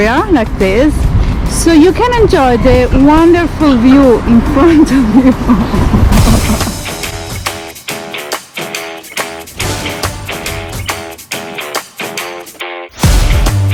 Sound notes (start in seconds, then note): 4.8 laughs; 6.2 upbeat rock music